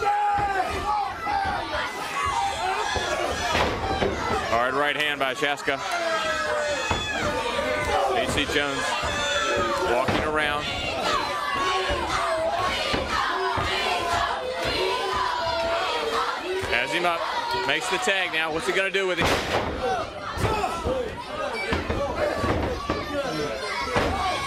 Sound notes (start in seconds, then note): 0.1 crowd chatter; 11.5 crowd cheering